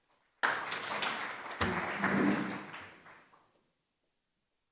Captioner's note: applause